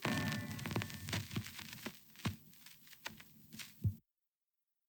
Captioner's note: fire crackling; paper rustling